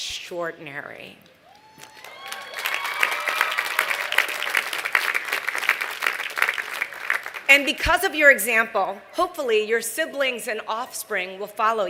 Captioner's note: applause